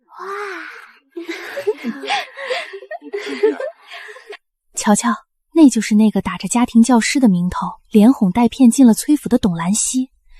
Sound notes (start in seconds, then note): 1.2 laughter